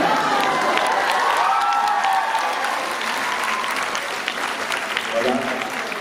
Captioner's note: cheering